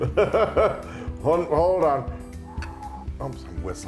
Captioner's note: laugh